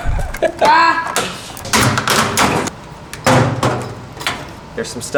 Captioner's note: groaning; laughing